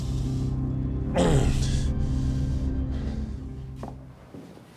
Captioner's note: suspenseful music continues; grunting